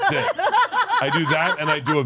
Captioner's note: laugh